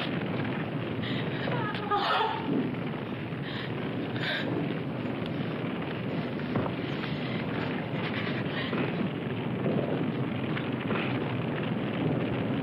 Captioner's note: crying